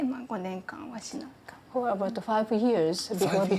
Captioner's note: speaks Japanese